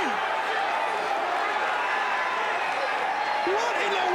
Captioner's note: fans shouting